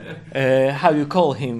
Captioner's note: laughs